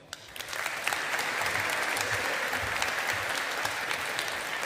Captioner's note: audience applauding